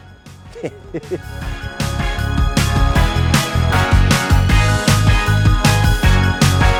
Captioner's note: upbeat music; laughs